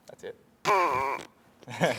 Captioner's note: laughing